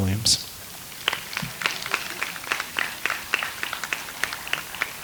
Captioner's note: audience applauds